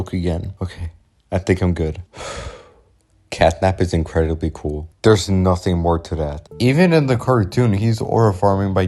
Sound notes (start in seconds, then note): 2.2 sigh